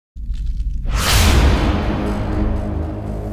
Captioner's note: fwoosh